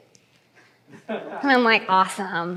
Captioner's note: laughter